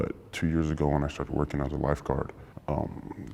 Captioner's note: none